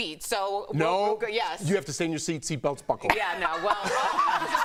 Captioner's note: laughter